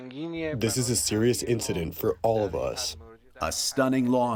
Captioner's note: through translator